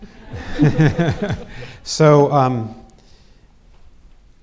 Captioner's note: all laughing